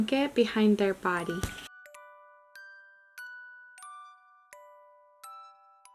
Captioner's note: gently chiming bells